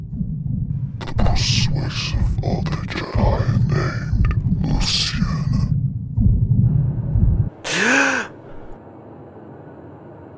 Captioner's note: voice echoed